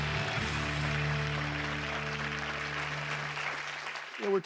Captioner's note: crowd applauding